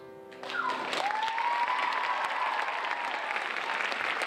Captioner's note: audience applauding